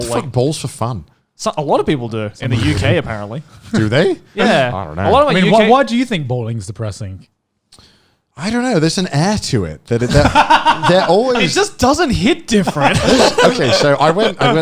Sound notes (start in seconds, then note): 10.0 laughing